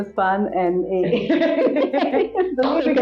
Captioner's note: laugh